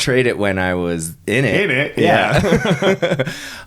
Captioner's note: laughing